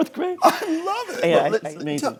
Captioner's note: laughing